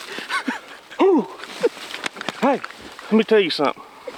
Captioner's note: both cheer